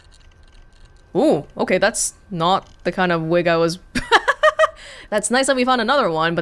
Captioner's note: chuckles